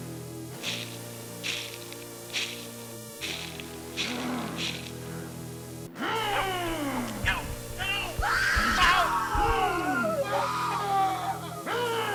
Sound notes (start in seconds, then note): 0.2 eerie music; 0.2 monster growls; 7.8 screams